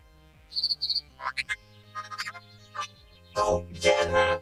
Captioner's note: chirping, squeaking